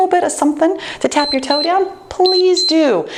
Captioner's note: timer beeps